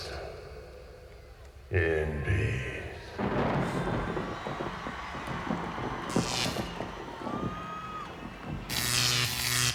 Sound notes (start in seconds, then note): 3.1 thunder rumbles; 6.3 electricity crackles